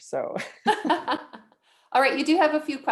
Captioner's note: both laugh